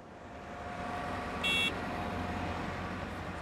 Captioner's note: Car honks